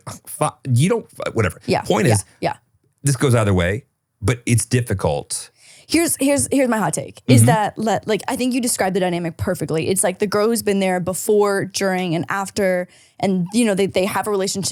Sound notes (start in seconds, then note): 7.2 laughing